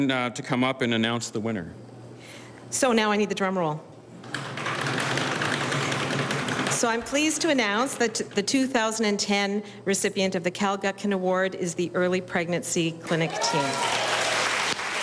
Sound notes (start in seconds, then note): 6.0 audience pounds on tabletops; 14.8 audience applauding